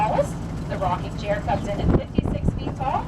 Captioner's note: driving sounds